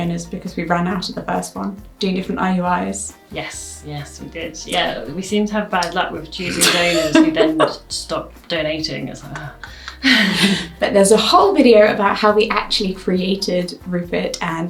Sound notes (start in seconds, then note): 6.4 laughs; 9.3 laughs